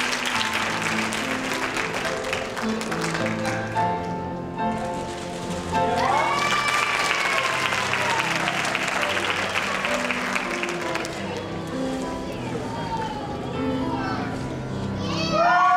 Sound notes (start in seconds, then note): 5.8 cheering